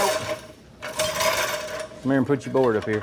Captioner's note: metal Clanking